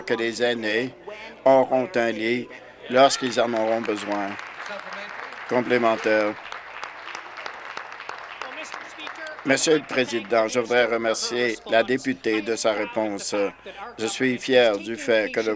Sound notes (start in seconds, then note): 7.4 applause